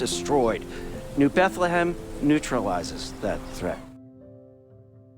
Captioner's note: voiceover